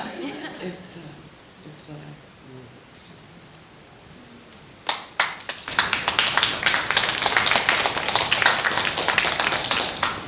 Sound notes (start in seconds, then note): 4.8 applauding